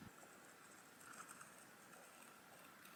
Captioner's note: scissors snip